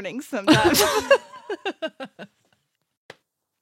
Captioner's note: laughs